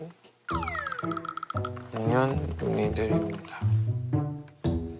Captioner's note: typing seemingly busy